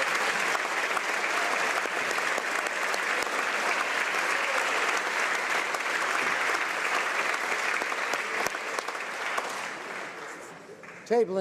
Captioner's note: applause